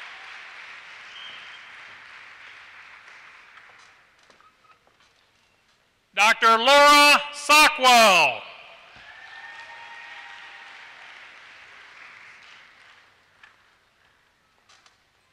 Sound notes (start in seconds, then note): 9.0 applause